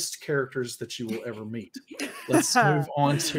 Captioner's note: women laughing